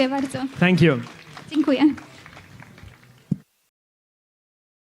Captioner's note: applause